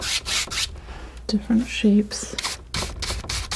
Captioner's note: scratching